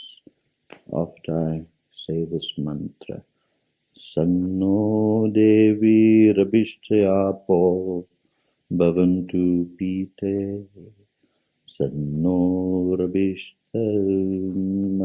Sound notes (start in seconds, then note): 3.9 chants Sanskrit